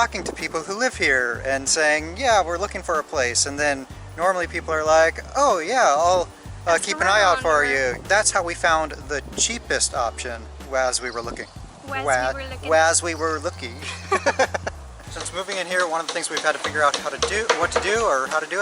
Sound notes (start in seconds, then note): 13.8 laughter